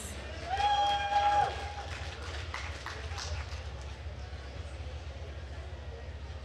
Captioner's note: attendees cheering and applauding